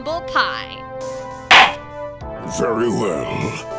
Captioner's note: gavel slams!